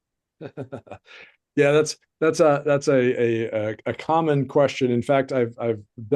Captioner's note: laughs